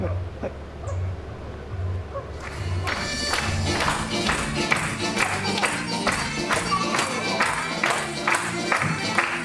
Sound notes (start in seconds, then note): 2.4 applause, music